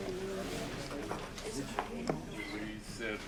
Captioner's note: audience chatting